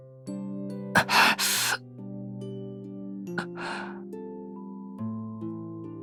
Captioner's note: gasp